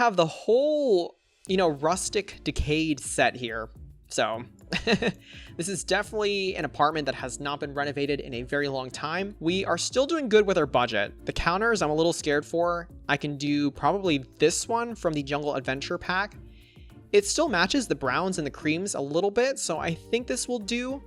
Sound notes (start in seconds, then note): 4.7 laughs